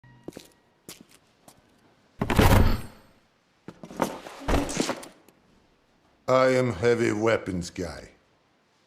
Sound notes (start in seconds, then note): 2.2 slam